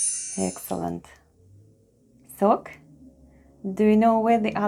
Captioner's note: chime sound